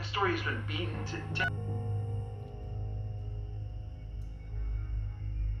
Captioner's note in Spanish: el teléfono celular suena